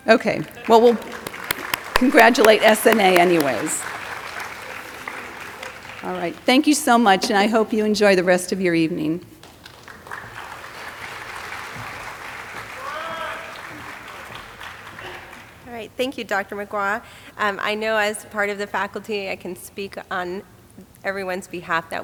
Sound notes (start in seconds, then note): 4.2 audience applauding; 9.4 audience applauding